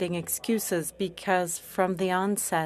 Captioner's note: speaking French